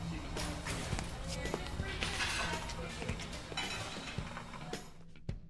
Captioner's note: patrons chattering